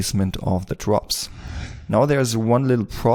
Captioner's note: air wooshing